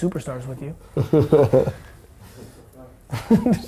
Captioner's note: laughing